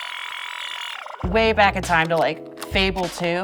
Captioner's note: tape fast forwarding